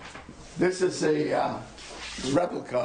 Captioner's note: mutters